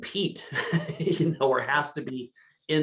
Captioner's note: laughing